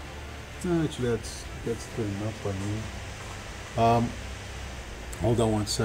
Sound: speaking faintly

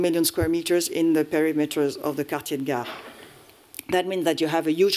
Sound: french

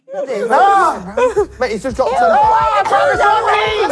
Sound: screaming

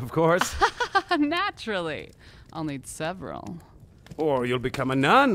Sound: laughs

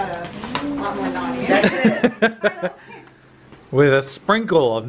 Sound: chuckles

